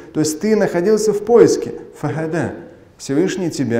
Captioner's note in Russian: говорит на арабском